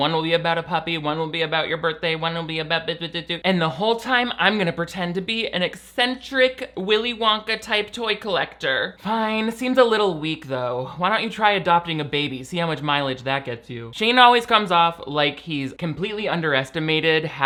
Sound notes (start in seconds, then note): 3.2 blabbering